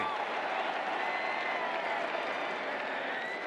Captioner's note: crowd cheering